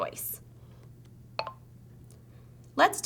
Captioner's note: button noise